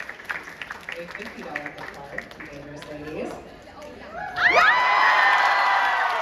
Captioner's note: crowd cheers